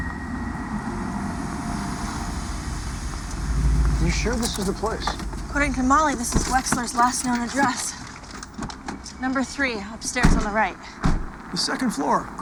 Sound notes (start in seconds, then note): none